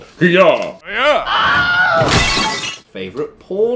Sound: woman screaming; glass smashing

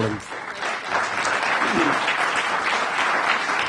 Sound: applause

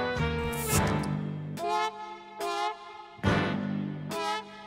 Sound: bottle cap hisses

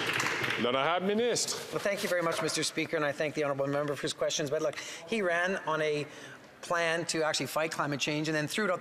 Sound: some Applause

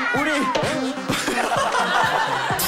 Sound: stuttering again!

